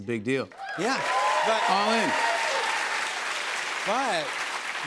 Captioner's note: cheers and applause